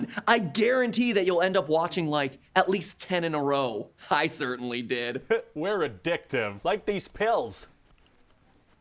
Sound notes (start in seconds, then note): 5.1 laughs